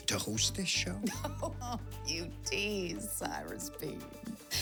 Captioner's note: laughs